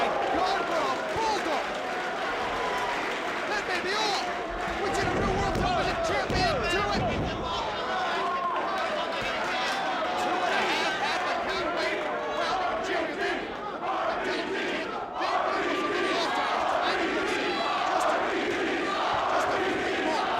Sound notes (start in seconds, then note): 6.3 applause